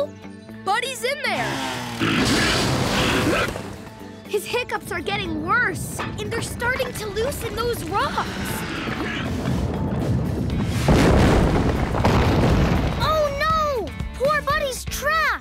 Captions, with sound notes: Buddy's in there. [hiccuping] His hiccups are getting worse, and they're starting to loosen those rocks. Oh no, poor Buddy's trapped!